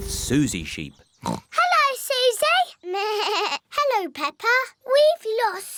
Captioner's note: oinks; bleats